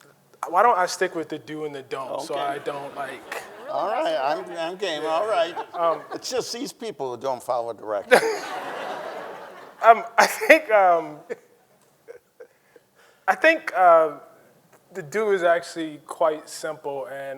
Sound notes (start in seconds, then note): 5.9 panelist laughs; 8.0 Ta-Nehisi chuckles; 8.0 audience laughing; 11.3 panelist chuckles